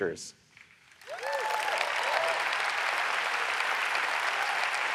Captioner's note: audience applauds